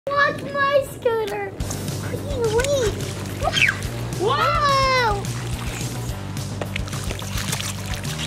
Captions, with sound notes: - Watch my scooter, geez louise. (squeals) Whoa. (upbeat music)